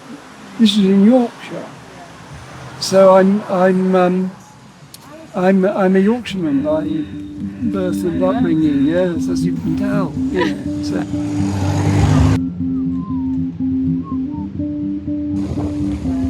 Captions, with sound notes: This is in Yorkshire so I’m, I’m a Yorkshire man by birth and upbringing Yes, as you can tell *laughter*